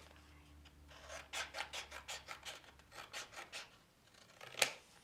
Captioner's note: scissors snipping